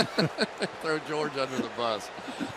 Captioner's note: laughter